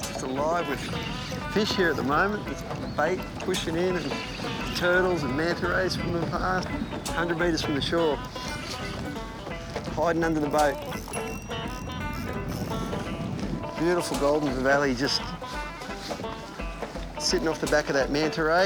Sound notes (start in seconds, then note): 13.4 water bubbling